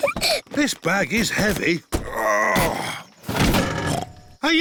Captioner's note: peppa giggles; grunts; snorts